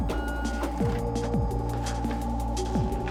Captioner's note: copier